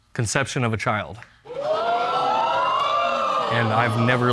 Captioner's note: audience gasping